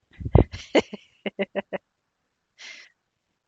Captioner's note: laughs